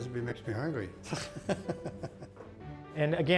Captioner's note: laughs